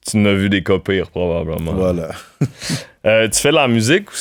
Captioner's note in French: petit rire